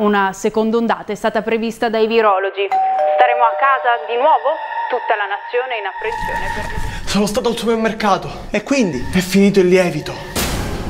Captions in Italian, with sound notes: UNA SECONDA ONDATA È STATA PREVISTA DAI VIROLOGI *CAMPANELLO PORTA* STAREMO A CASA DI NUOVO? TUTTA LA NAZIONE È IN APPRENSIONE SONO STATO AL SUPERMERCATO E QUINDI? È FINITO IL LIEVITO